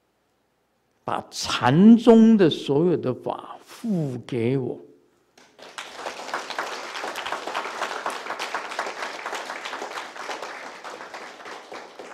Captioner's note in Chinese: 眾鼓掌